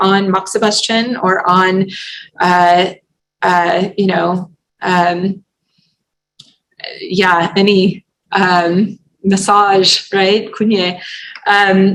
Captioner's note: non-english